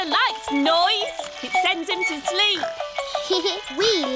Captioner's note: giggles